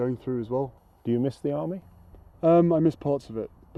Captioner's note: voiceover